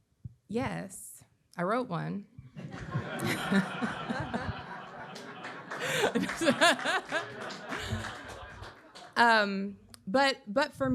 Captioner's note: laughter